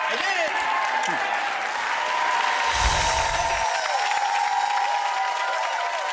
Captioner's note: audience cheers and claps